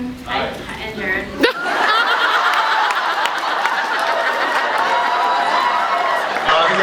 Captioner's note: laughs